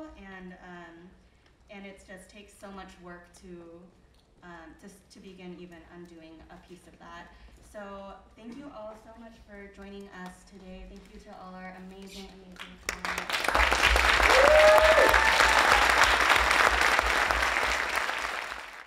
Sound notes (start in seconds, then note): 12.6 audience applauding; 13.1 audience cheering